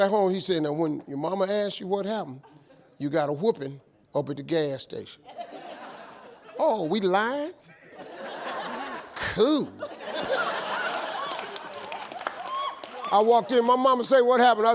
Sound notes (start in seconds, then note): 5.3 audience laughs